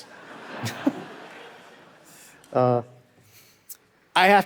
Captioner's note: audience laughing